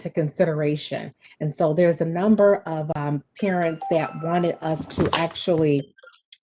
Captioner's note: phone chimes